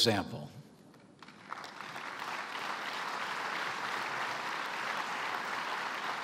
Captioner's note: applause